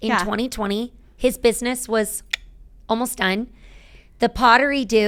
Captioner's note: clicking tongue